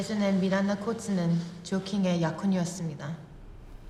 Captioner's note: speaking Korean